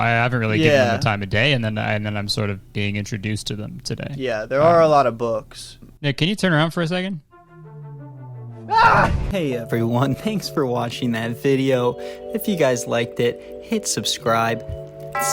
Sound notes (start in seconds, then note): 8.7 yells